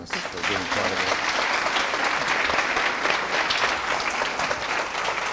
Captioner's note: audience applause